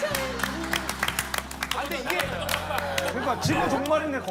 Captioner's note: applause for the effort